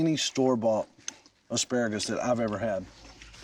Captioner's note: none